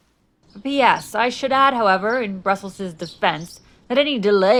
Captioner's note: storm ends, birds chirping